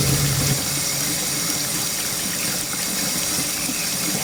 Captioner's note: water continues running